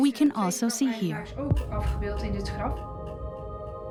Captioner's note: speaks Dutch